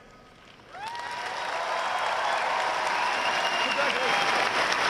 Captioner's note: audience cheering and applauding